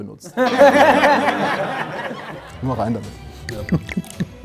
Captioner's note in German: Lachen